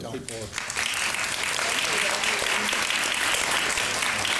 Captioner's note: all clapping